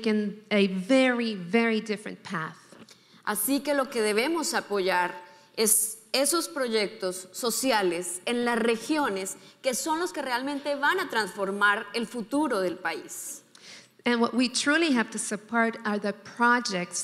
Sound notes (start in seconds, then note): 3.2 speaking in foreign language